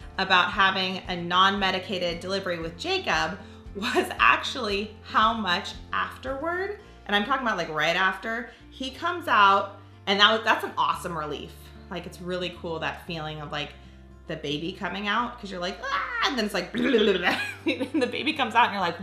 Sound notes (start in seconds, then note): 16.3 yells; 16.7 laughing